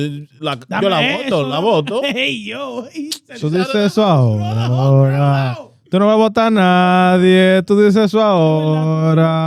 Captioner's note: speaking In Foreign Language